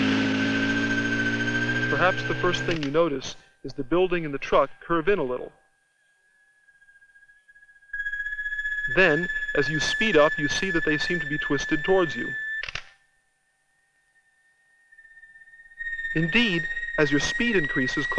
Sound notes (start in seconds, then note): 2.6 camera shutter clicks; 12.9 camera shutter clicks